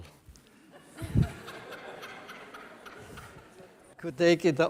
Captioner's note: laughter from the audience